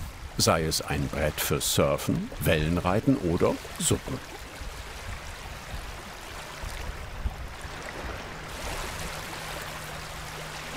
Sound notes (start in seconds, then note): 4.3 even water rushing